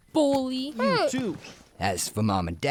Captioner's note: Fester grunts